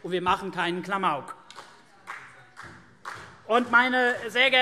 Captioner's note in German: Vereinzelter Beifall CDU